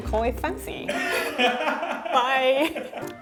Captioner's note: man laughing; laughing